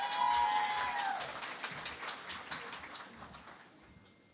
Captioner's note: cheering and Applause